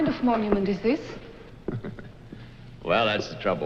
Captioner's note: chuckles